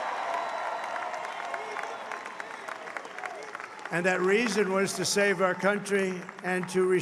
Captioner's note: applause